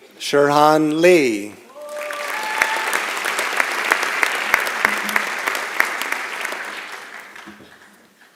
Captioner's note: applause